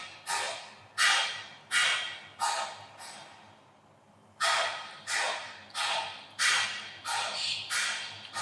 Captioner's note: construction noise